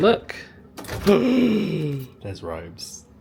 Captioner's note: gasping